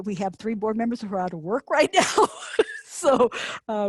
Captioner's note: laughs